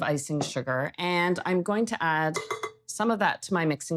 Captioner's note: cup tapping